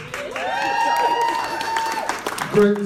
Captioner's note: applause